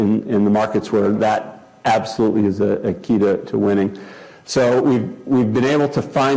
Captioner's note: none